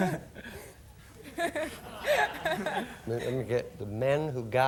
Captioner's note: audience laughing